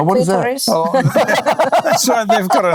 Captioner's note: laughing